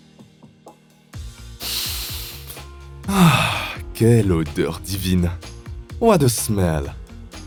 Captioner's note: speaking French